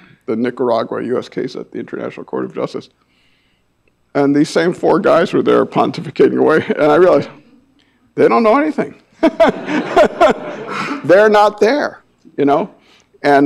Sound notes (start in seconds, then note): 9.2 laughs; 9.2 audience laughing